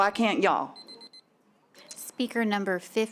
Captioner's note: timer beeping